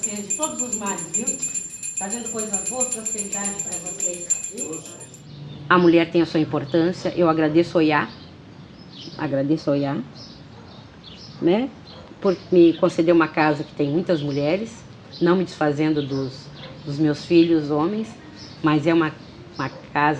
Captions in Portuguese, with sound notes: Trazendo coisas boas e prosperidade pra vocês! [sinos continuam] A mulher tem a sua importância. Eu agradeço a Oyá. Agradeço a Oyá. [pássaros ao fundo] Né? Por me conceder uma casa que tem muitas mulheres, não me desfazendo dos, dos meus filhos homens, mas é uma casa, um Ilê, né?